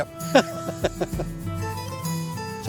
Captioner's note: laughs